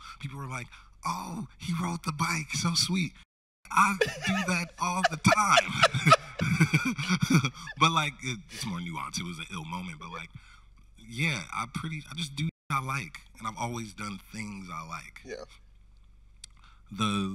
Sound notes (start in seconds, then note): 5.6 both laughing